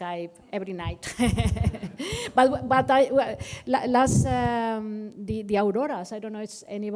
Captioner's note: laughter